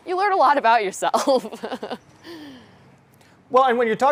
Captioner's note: chuckles